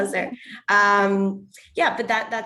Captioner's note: laughs